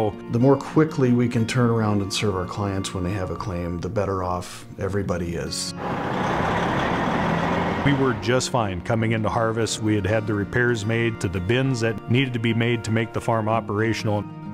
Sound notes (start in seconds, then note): 5.8 truck engine